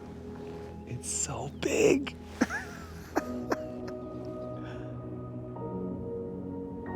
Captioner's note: chuckles; celestial music continues